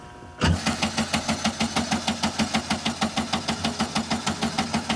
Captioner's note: Beetle engine sputtering